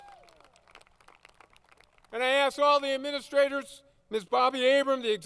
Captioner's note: applause